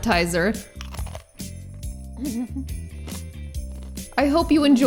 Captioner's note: cracker crunching